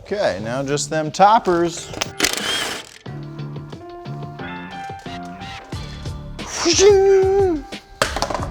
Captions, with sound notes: Okay, now just them toppers. (impact gun whirring) (upbeat music) Whoosh.